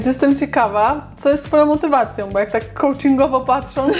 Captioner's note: laughs